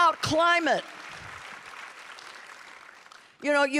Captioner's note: audience applauding